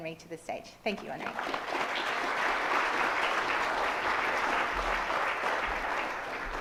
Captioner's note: audience applauds